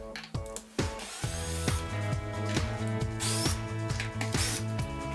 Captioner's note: upbeat music; drill whirring